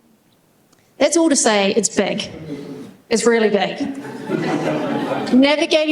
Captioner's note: laughter